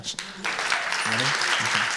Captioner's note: applause